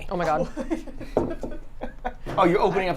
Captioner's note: laughing